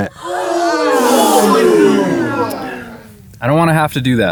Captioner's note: crowd gasping